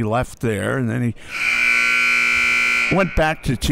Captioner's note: clock buzzes